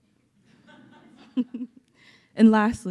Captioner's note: audience laughing